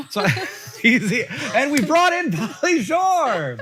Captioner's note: laughs